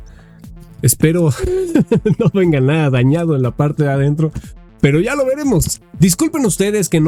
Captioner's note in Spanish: risas